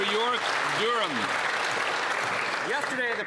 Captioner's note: some Applause